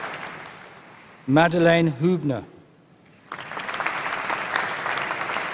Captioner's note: applause